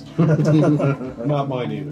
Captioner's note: chuckle